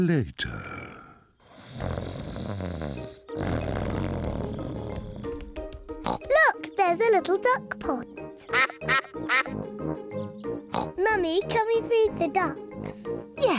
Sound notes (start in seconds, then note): 1.5 snoring; 6.0 snorts; 8.4 ducks quack; 10.7 snorts